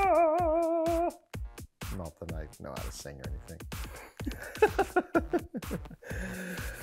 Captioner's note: laughing